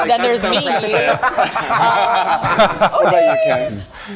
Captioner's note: group laughing